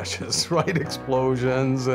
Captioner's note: laughing